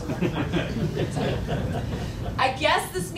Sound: laughing

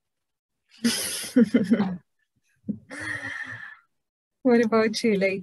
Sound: laughs

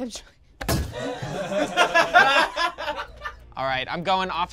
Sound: group laughs

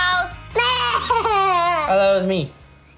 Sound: shouting

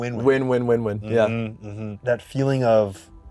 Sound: none

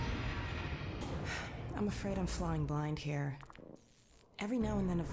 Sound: sigh

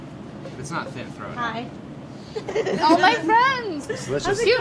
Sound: laughs

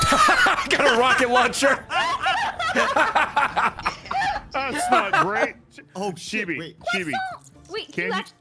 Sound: laughs

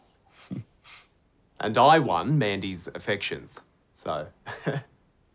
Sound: laughs

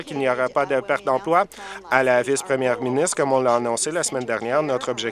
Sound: applause

